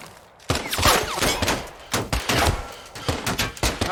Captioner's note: panting